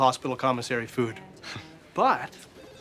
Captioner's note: chuckles